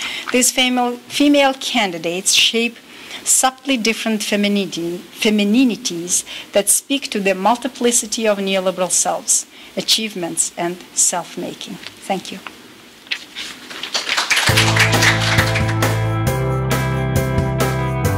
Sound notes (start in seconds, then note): 13.6 applause